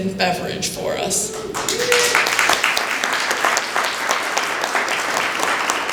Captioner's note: applause